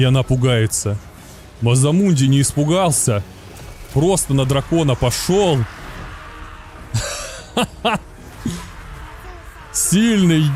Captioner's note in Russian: смех